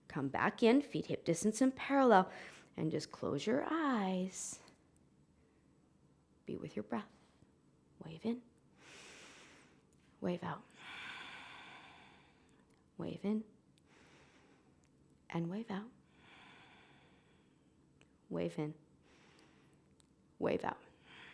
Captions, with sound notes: Come back in. Feet hip distance in parallel and just close your eyes. Be with your breath. Wave in (inhaling), wave out (exhaling). Wave in (inhaling) and wave out (exhaling). Wave in (inhaling), wave out (exhaling).